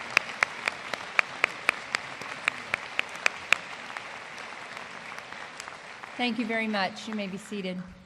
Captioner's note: applause